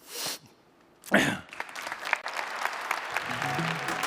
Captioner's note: applause